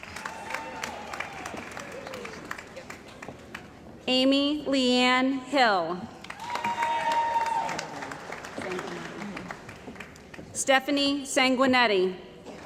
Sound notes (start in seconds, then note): 0.0 cheering & Applause; 6.2 cheering & Applause